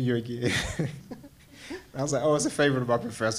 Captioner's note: laughs